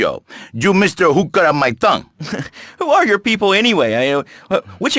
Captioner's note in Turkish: gülüyor